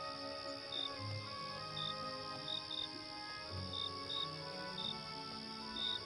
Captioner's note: birds chirping